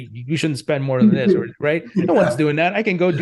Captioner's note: laughs